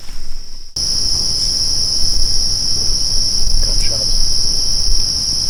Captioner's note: insects buzzing